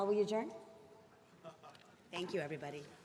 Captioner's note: laughs